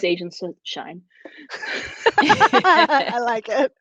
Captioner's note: laughter